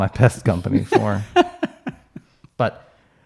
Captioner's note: laughing